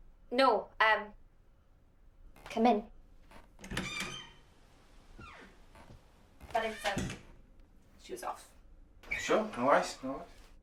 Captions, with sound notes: No, um, come in. [door squeaks] Not inside. Shoes off. Sure, no worries, no worries.